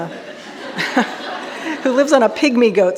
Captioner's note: audience laughing